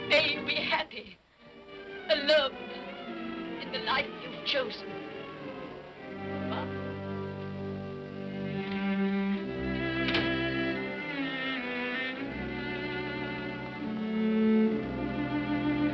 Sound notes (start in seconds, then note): 7.9 sentimental music; 9.7 door closes; 11.2 sentimental music